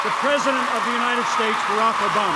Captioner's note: cheers, applause